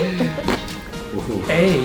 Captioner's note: joint pops